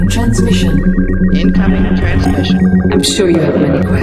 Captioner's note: voiceover